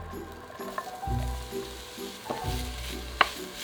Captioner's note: onions sizzling